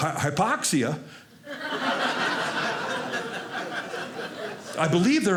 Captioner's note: audience laughing